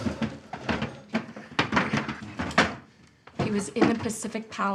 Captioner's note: chair clatters